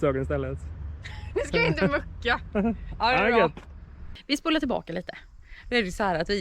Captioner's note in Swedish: skratt